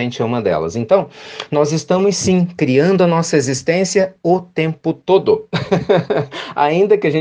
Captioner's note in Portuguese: risadas